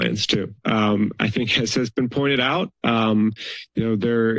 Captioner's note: chuckles